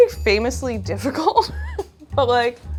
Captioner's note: chuckling